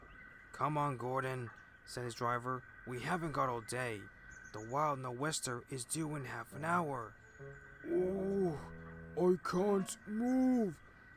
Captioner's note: groan